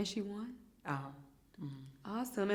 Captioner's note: hums in agreement